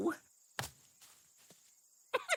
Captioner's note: chuckles